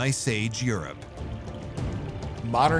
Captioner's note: stream babbling